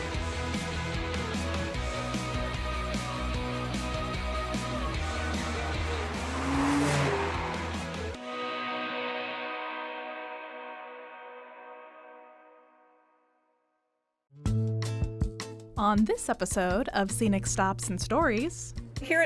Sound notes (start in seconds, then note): 1.1 bright upbeat music; 6.4 vehicle swooshing; 8.8 bright music; 14.4 lively music